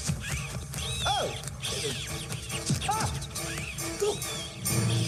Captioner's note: birds chirping